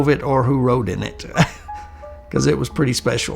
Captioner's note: chuckling